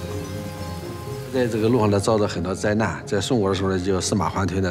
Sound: speaking Chinese

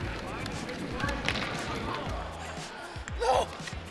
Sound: sticks hitting ice

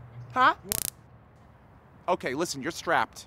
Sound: zap

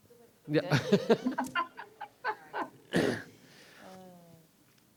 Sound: laughs

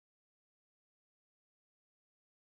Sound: none

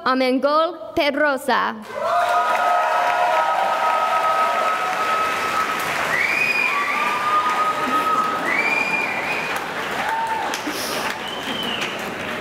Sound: cheering and applause

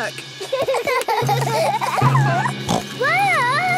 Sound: children giggling; snorts

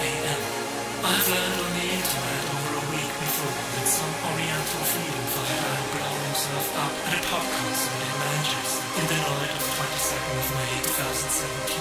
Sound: very sadly

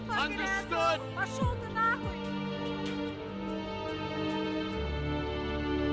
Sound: speaks in foreign language

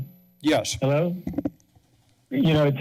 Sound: mic sounds

